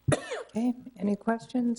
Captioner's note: woman coughs